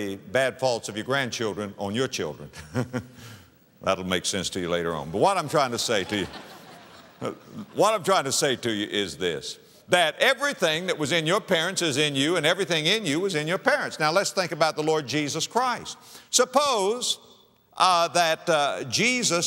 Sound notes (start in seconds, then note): 5.4 audience laughter